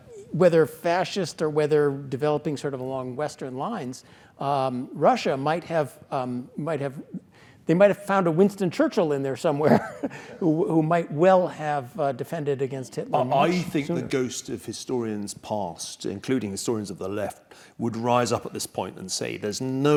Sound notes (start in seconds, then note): 9.2 laugh